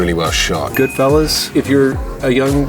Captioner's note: bell dings